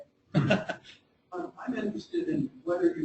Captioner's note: chuckling